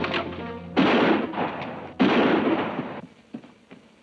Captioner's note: gun bangs